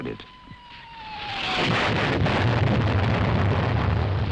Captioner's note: bombs exploding